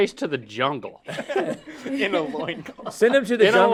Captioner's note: laughing